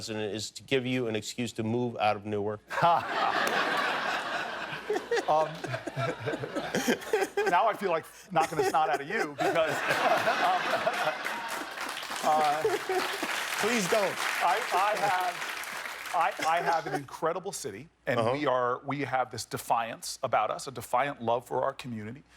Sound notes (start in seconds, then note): 8.2 laughter; 16.4 applause